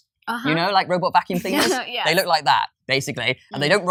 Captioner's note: laughs